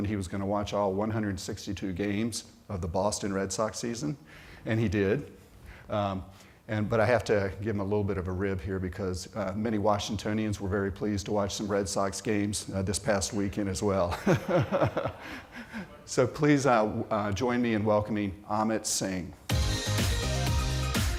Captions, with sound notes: he was gonna watch all 162 games of the Boston Red Sox season. And he did. But I have to give him a little bit of a rib here because many Washingtonians were very pleased to watch some Red Sox games this past weekend as well. [laughter] So, please join me in welcoming Amit Singh. [upbeat synthesizer music]